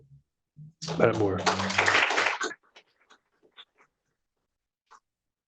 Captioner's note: applause